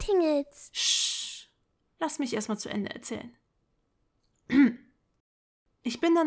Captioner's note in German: räusper